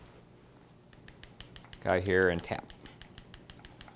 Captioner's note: tapping sieve